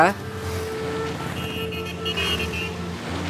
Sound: traffic sounds

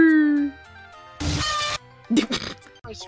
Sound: slight earrape

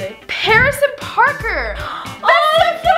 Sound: gasps

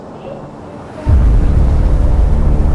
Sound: muted bang; wind blowing

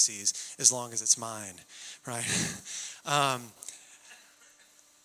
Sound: chuckling

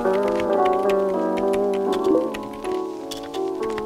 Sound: chat notifications; typing

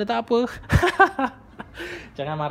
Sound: laugh

